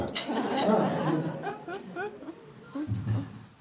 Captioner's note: crowd laughing